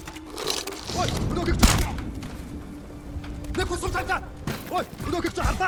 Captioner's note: gun firing; suspenseful music